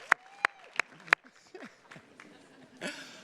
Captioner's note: chuckles